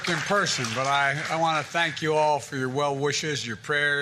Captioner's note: cheers and applause